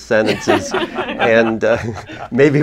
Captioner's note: laughter